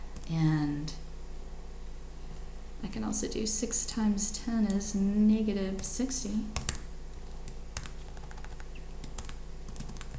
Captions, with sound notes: And I can also do 6 times 10 is -60. (keyboard clicks)